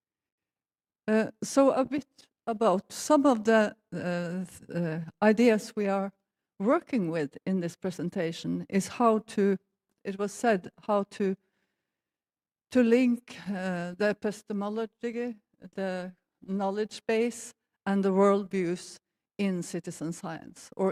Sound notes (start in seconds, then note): none